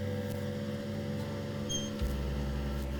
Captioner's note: squeaking Swing